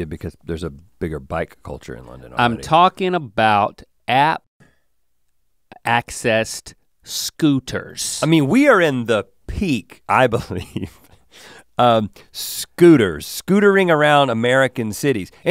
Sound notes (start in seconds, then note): 10.4 chuckles